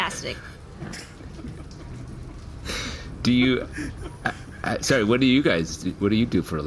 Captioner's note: stifled giggling